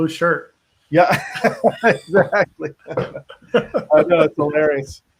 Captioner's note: laughs